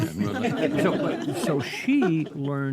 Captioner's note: all laugh